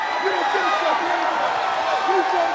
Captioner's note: cheers and applause